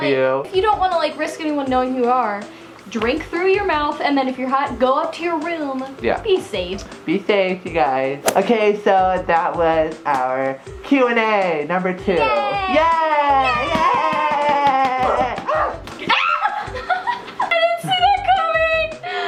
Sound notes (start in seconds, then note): 13.2 both cheering; 15.8 squeals